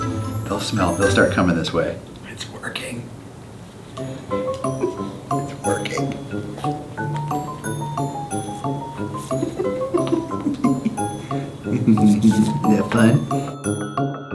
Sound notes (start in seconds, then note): 6.6 playful music; 9.1 laughs; 14.1 playful music continues